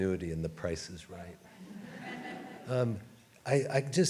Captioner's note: audience laughs